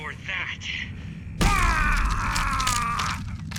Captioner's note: groans loudly